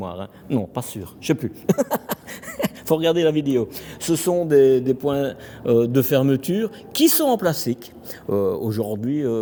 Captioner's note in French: rires